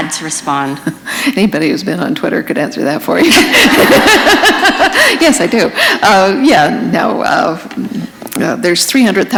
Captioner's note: laughter